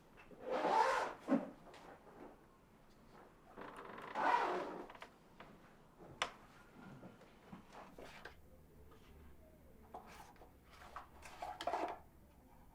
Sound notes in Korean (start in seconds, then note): 0.5 캐리어 지퍼 잠그는 소리; 3.4 끼익 문 닫히는 소리; 4.1 캐리어 지퍼 잠그는 소리